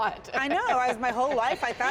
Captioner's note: laughter